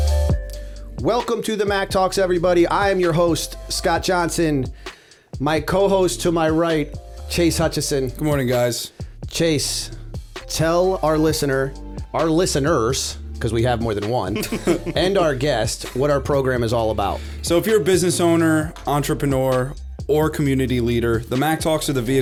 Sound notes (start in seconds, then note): 14.3 chuckle